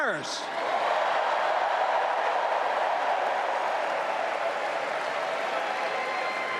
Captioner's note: applause